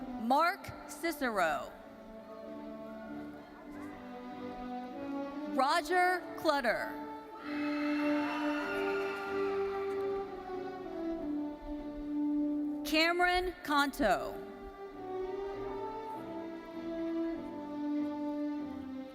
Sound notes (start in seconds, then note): 2.1 solemn majestic music; 7.4 audience cheering